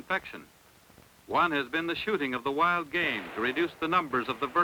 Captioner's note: gunshots